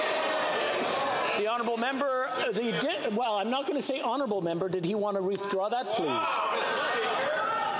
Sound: yelling

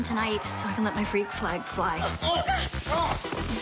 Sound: crowd cheers

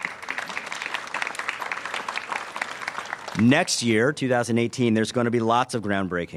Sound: applause

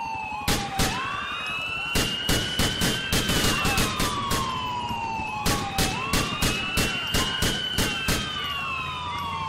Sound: gunfire

